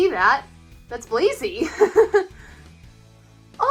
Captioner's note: laughs